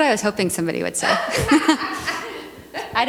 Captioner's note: laughter